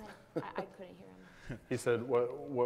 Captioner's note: laughs